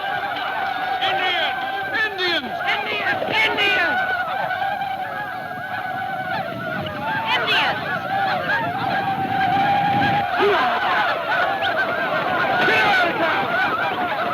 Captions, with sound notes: - Indian, Indians! - Indians! - Indians! - Indians! (man exclaims)